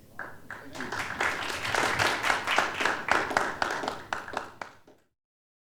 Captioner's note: applause